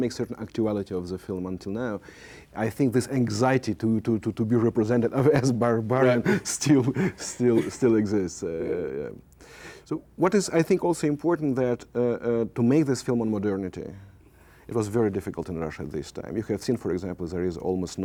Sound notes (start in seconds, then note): 6.0 laughs